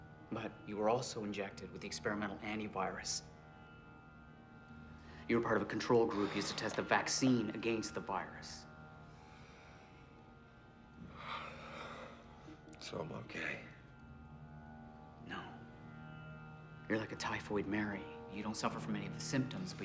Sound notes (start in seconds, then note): 11.0 sighs